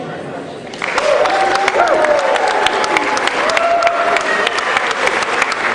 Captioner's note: cheering